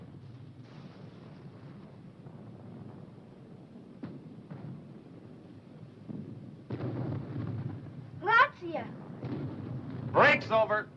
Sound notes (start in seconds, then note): 0.1 bombs exploding; 8.5 boy speaking foreign language